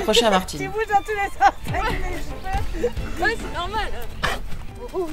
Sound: laughs

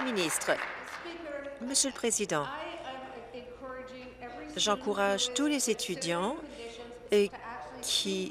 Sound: applause

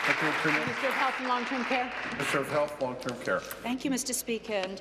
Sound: applause

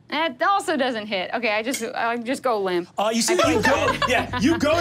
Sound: group members laughing

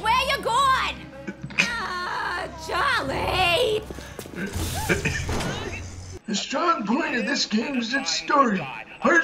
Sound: poorly contained laughter

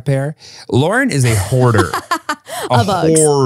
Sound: laughs

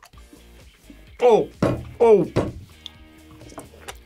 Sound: pounds table

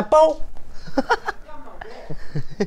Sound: hahaha hahaha

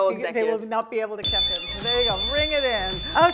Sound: chime dings

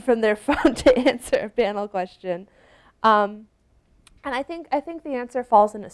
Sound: chuckles

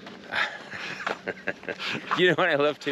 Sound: both laughing

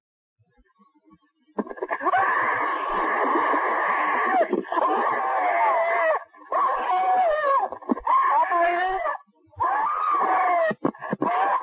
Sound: screaming

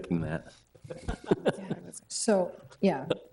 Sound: people chuckling

